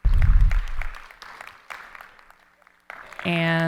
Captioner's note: audience applauding